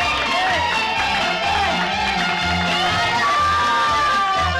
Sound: children shouting playfully

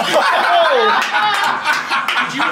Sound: people laughing; person clapping

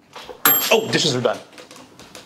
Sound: bell rings

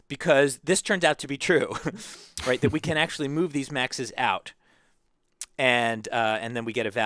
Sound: laugh

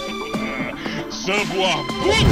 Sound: smug laughter

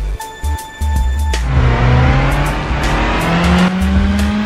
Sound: car racing

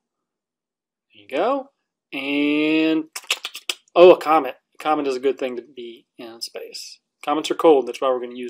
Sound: alien sounds

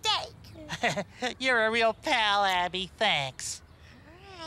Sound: chuckles

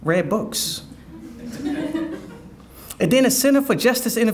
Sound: audience laughing

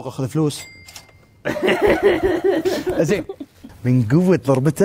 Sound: laughing

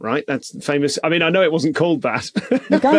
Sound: laughs

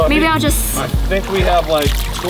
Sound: water splashing

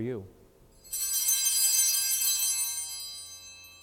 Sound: bells ring

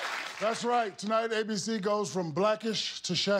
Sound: applause

